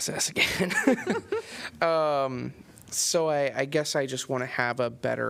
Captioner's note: laughter